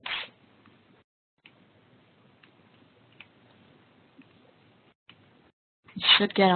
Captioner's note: silence